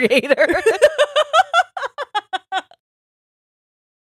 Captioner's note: both laughs